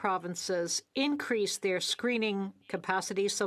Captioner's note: speaking French